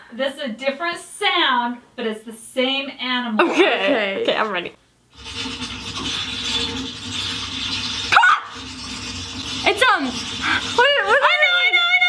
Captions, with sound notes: It's a different sound, but it's the same animal. - Okay. - Okay. - Okay I'm ready. (rattling) Caw! It's um-- - I know, I know I know.